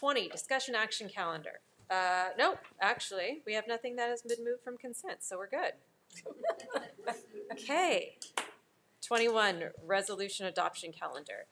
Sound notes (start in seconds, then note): 6.2 all laughing